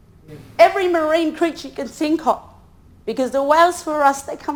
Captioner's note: speaks in foreign language